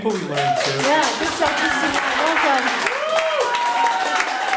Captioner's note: audience applauds